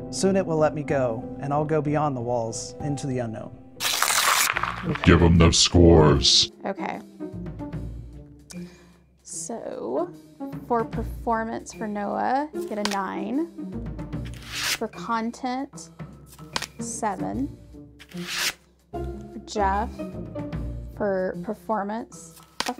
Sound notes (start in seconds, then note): 3.8 paper ripping; 7.6 dramatic music; 14.3 card whooshing; 16.4 card smacking; 18.1 card whooshing; 22.5 card smacking